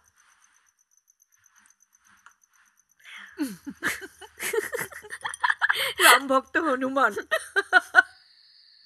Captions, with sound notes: (Laughs) Loyal servant of his master.